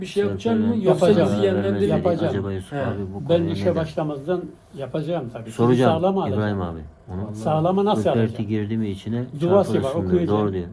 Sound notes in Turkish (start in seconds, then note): none